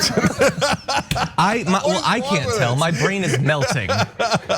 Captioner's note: laugh